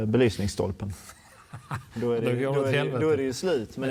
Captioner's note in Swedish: Skratt